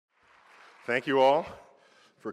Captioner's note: applause